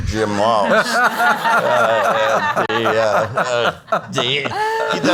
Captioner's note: audience laughs